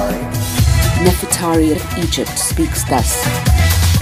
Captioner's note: voiceover